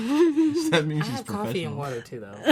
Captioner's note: laughs